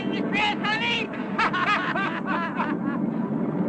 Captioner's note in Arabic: ضحك